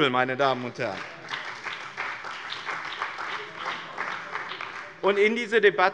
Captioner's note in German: Beifall bei dem BÜNDNIS 90/DIE GRÜNEN und der CDU